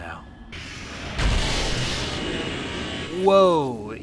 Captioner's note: powerful zap